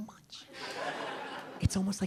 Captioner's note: audience laughing